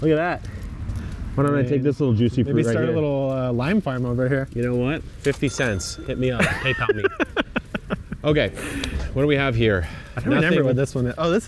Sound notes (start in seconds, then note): 5.3 bell chimes; 6.3 laughs